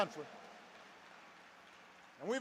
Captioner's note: applause